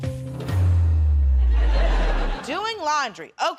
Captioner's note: laughter